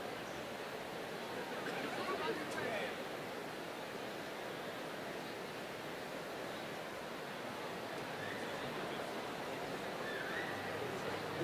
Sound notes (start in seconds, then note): none